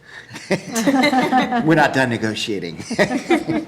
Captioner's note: laughing